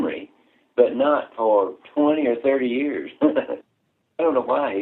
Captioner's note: laughter